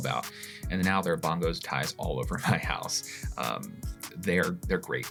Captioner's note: chuckles